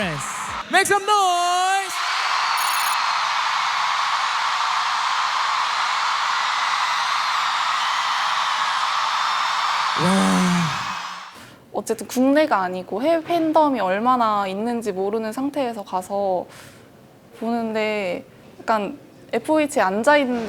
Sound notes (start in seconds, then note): 1.9 A huge roar for K-POP